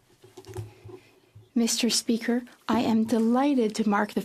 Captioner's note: speaking French